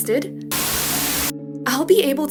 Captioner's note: Static